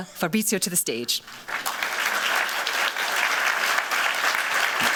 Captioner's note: applause